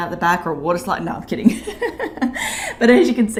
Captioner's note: chuckles